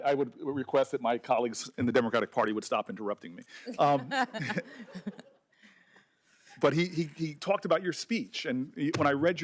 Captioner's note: laughter